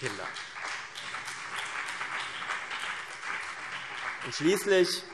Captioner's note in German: Beifall CDU und BÜNDNIS 90/DIE GRÜNEN